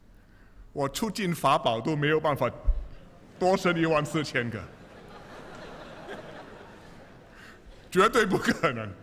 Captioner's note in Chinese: 笑声